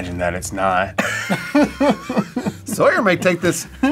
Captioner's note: both laugh